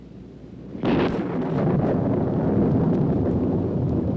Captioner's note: thunder rumbling